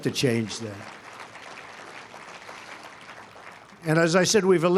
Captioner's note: applause